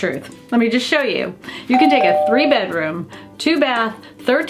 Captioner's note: door bell rings